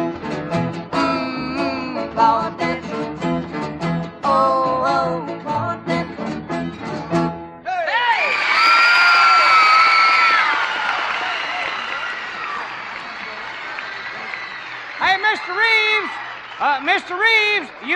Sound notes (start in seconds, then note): 7.4 cheers, applause